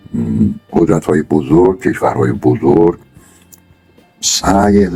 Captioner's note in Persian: گلویش را صاف می‌کند